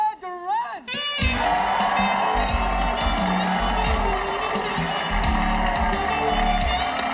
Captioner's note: audience applauding; upbeat music